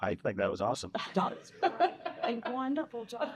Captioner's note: laughing